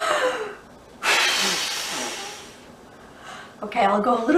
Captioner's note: blows air forcefully